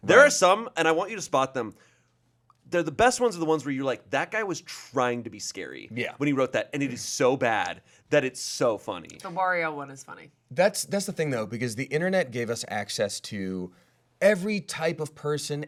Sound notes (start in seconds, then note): none